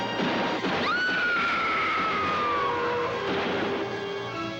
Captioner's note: gun firing; screaming; dramatic music